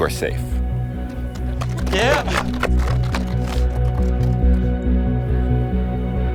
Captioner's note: clapping and cheering; tense music